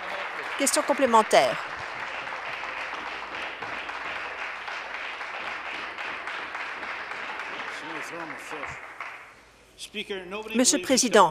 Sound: applause

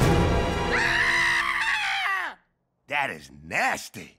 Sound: intense music; Fry screams

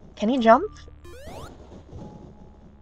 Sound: thunder strikes; jump sound

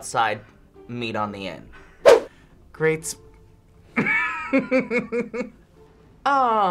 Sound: laughs

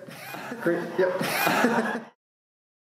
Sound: laughter

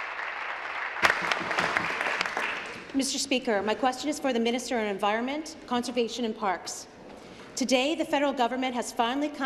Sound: applause

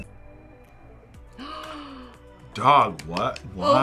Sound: gasps

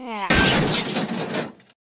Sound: crash

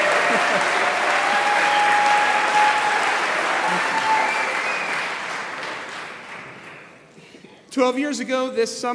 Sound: applause

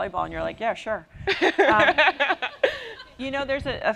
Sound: laughter

